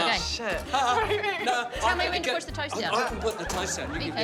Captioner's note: chuckles